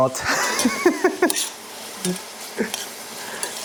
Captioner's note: laughs